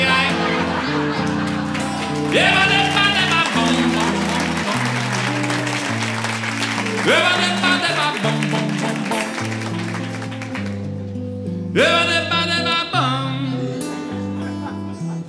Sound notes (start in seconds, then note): 9.8 applause